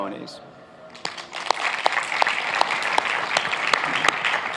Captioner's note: applauding